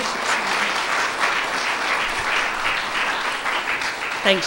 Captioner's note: applause